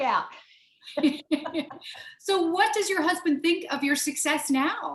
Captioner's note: both laughing